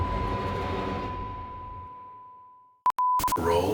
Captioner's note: beep, static crackles; color bars tone continues whining